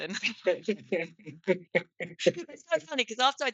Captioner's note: both laughing